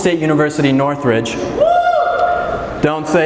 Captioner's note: someone in audience cheers